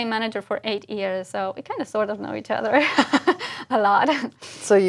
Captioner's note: laugh